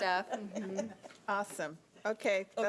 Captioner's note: chuckling